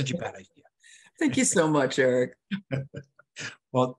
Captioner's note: laughs